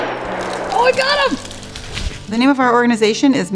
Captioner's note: gun booming; branches crunching